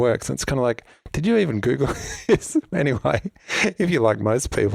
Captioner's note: laughs